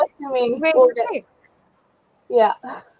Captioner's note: chatter